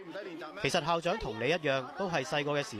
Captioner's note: Cantonese